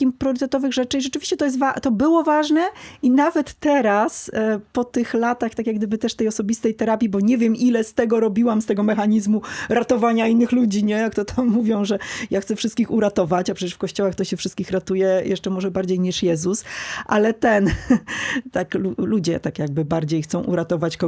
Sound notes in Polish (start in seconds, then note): 17.6 śmiech